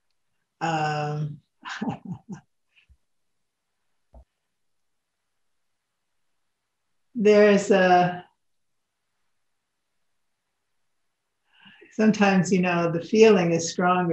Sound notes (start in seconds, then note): 1.7 laughs